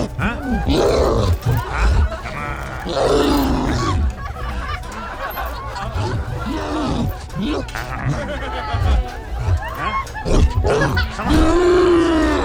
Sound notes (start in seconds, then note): 2.9 cyclops roaring; 5.4 laughter